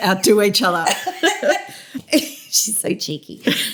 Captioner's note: laughter